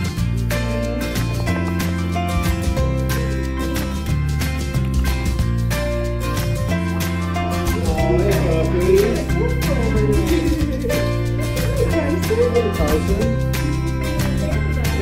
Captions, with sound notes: - Aw, hey, puppy. (laughs) - Hi, Tyson! - Hey, Tyson, good boy.